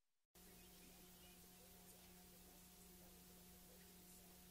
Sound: VHS static

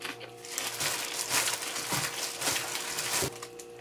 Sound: crunchy crunchy

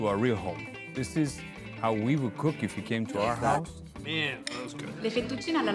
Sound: speaking Italian

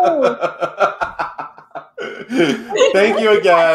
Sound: laughing

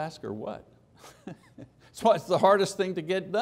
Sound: laughter

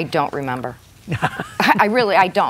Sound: laughs

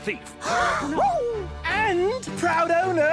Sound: all gasp

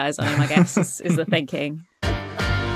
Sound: chuckles

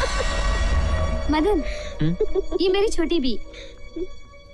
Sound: laughs; laughs

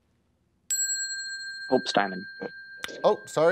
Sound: ding

